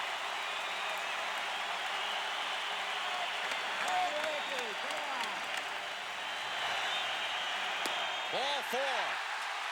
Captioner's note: applause